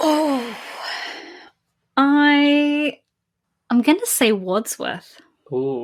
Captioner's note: sighing